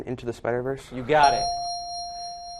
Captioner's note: correct answer chime